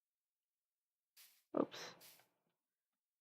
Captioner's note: quietly